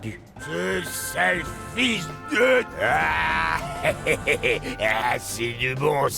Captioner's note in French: rire